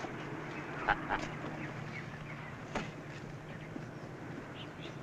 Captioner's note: chuckling